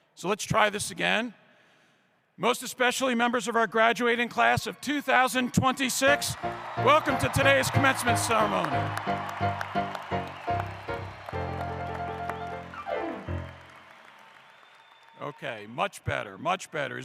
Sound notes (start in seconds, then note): 10.1 applause